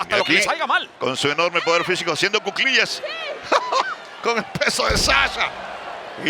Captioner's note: laugh